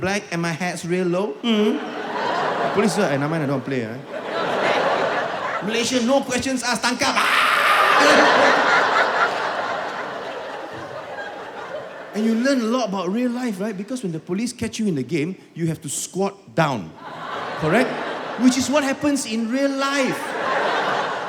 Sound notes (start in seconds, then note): 7.2 kids run screaming